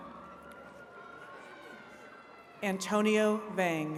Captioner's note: attendees cheering